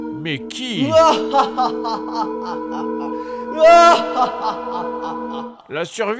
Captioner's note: maleficient laugh